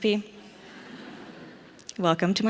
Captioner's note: audience laughs